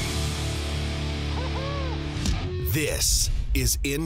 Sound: hard rock music; voiceover

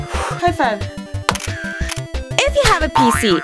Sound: camera shutter

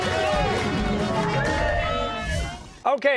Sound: cheers and applause

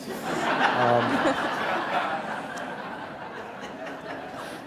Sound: audience laughing

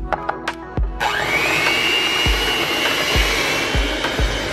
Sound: mixer running

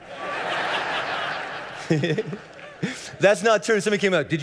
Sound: congregation laughing

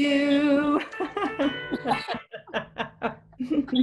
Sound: laughing

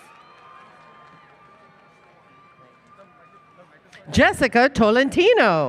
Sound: applause, Cheering

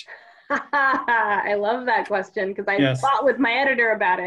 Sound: laughs

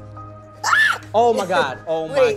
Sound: girl screaming

